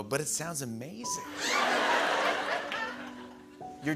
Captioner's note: laughter